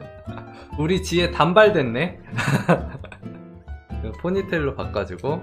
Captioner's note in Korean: 웃음